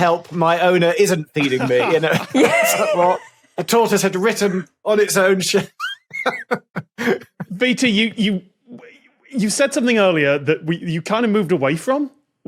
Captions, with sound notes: my owner isn't feeding me." (group laughing) What? A tortoise had written on its own shell. (laughs) VT, you said something earlier that you kind of moved away from,